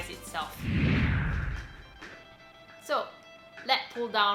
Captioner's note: low whooshing